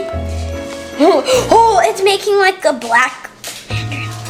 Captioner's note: whispers